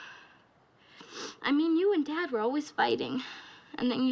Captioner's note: sniffles